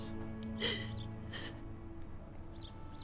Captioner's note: crying; birds chirping; gentle music